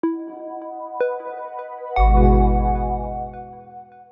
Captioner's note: logo swooshing